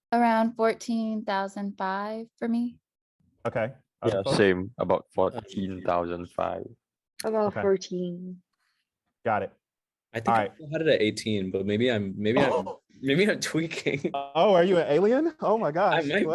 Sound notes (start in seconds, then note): 12.4 laughs